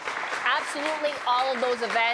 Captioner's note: applause